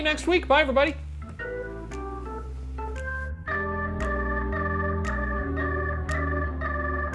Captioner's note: snapping